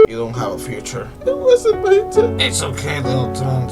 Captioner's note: cries more